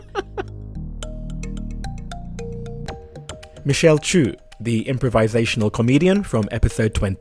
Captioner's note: voiceover